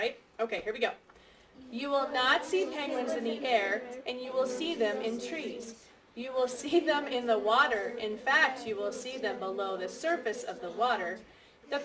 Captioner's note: class reads together